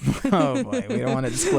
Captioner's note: both laugh